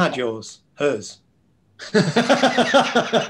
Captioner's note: laughter